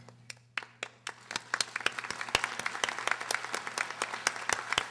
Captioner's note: audience applauding